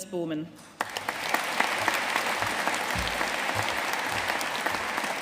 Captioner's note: audience applauding